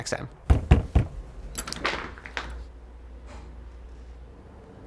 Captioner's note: knocking on door